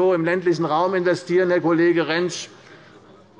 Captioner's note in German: none